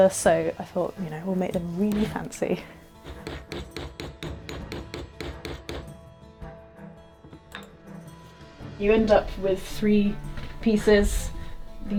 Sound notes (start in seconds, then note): 3.4 tools thudding; 7.8 tool rattling